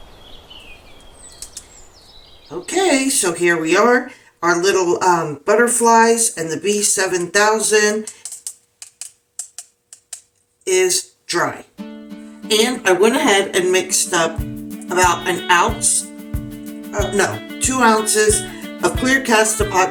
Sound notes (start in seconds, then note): 1.6 nature sounds